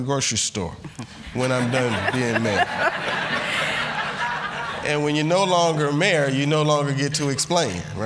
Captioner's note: laughter